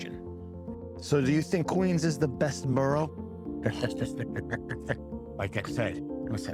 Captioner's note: laughs